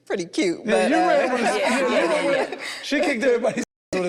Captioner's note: group laughs